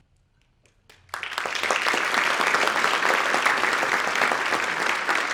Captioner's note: audience applauding